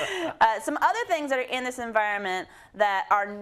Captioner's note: laugh